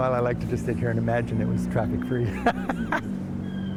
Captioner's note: laughter